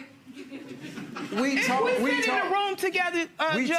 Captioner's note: audience chuckling